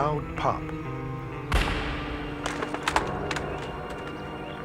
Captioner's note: gun firing